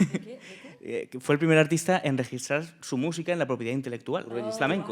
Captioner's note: speaking in Spanish